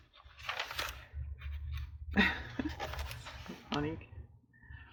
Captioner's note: laughs